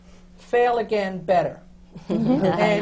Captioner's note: laughter